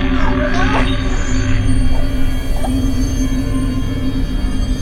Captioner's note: screaming; Shelby choking